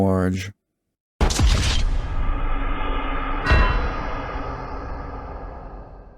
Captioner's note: GTA "Wasted" sound effect